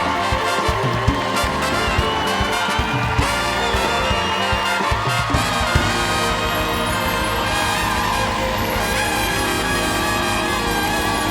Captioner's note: cheers and applause